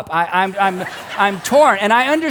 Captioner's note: congregation laughs